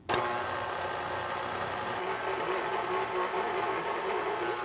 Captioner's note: machine whirring